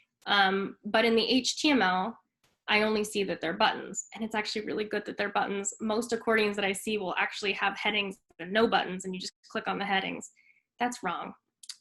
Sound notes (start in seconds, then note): none